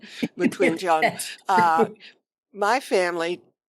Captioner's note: laughing